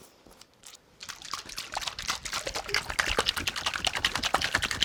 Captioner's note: liquid sloshing